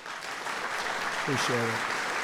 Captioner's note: applause